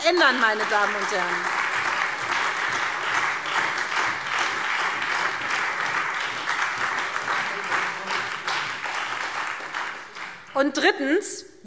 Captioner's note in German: Beifall SPD und Freie Demokraten